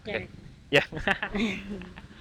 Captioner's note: chuckles